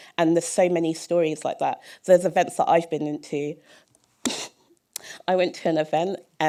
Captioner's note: chuckle